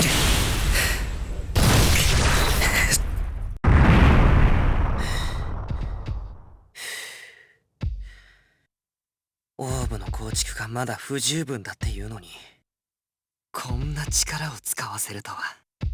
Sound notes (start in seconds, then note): 1.3 exertion pants; 6.0 huff